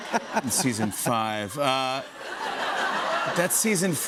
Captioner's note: laughter